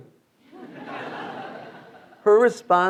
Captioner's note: students laughing